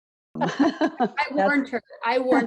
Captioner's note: laughing